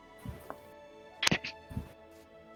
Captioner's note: Krel chokes